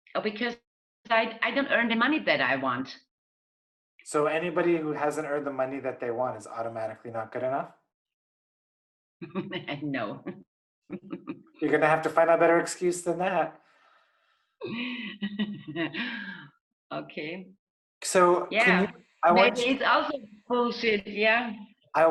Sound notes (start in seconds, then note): 10.9 laughs; 14.6 lady laughs